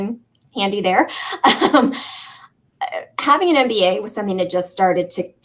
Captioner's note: laughter